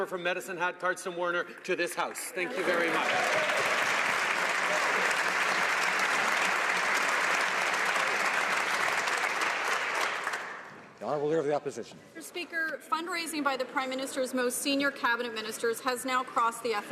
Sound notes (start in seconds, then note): 8.5 some Applause